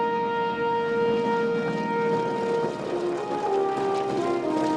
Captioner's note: regal instrumental music; airplane passing